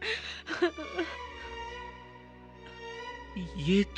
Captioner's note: crying